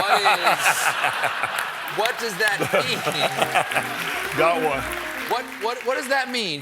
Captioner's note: laughter